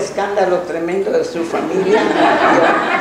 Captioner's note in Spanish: laughs